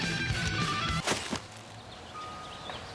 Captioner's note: thump